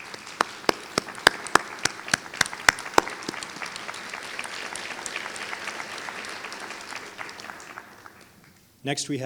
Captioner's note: applause